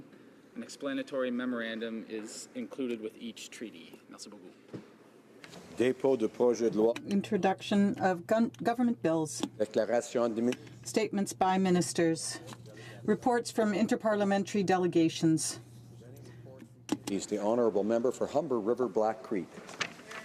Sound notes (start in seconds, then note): 13.0 speaking French